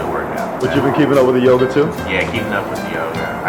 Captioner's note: voiceover